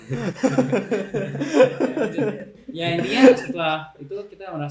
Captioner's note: laughter